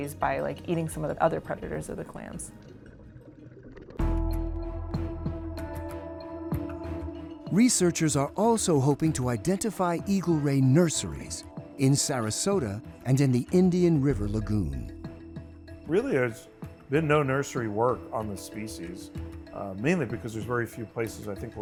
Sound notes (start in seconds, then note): 2.9 water bubbling; 4.2 lively music